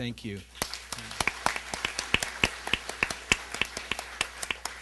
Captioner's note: applause